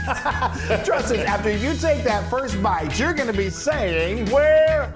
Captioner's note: laugh